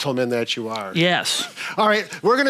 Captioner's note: chuckling